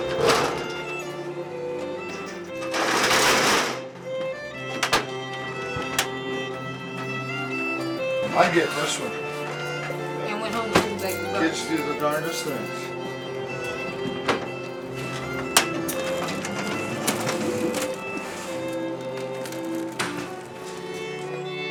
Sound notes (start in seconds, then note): 0.1 ramp clacking; 1.1 gentle orchestral music; 2.7 ramp clattering; 4.4 gentle orchestral music; 12.7 gentle orchestral music; 14.8 wheels clattering; 18.0 gentle orchestral music